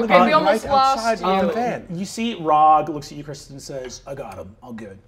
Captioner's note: none